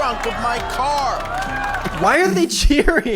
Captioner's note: audience cheering